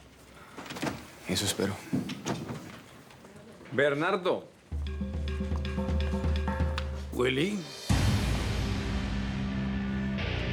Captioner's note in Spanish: Ruido en la puerta